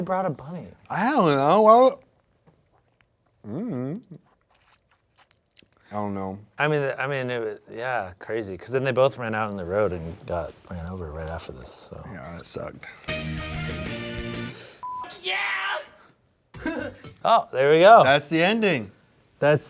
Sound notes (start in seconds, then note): 13.1 upbeat music; 14.8 beep; 16.8 laughs